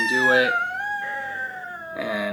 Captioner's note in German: DJ weint